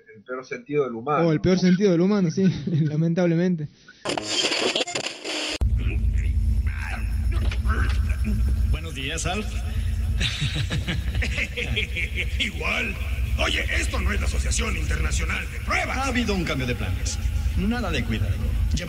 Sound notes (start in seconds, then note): 3.9 noise of radio tuning; 6.7 sounds of struggle